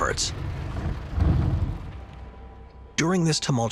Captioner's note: energy rumbling